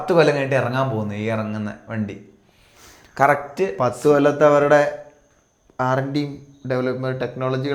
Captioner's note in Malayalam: ചീറ്റുന്നു